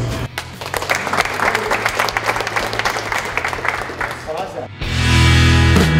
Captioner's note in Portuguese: aplausos